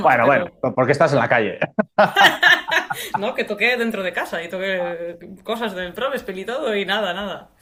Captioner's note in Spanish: risas